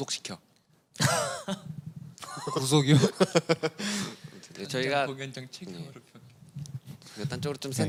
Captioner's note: nervous